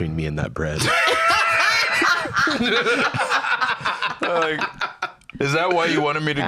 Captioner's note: all laughing